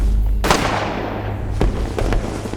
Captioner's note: fireworks booming; gunfire popping